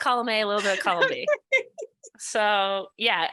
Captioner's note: laughs